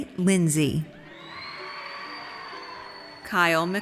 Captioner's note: audience cheers